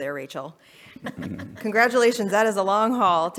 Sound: laughs

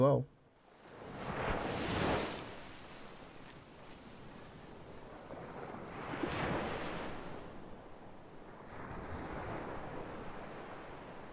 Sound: waves crashing on a beach

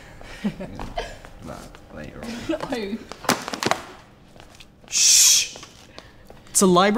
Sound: giggling

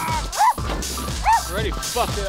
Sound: dog growling; dog barking

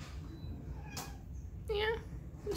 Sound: myow

